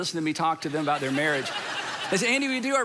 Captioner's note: congregation laughing